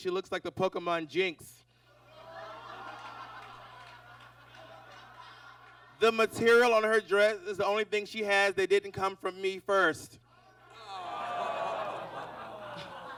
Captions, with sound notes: she looks like the Pokemon Jynx. [audience laughs] The material on her dress is the only thing she has that didn't come from me first. [audience groans]